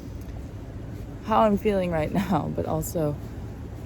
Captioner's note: chuckles